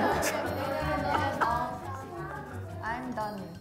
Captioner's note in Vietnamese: Lẩm nhẩm lời bài hát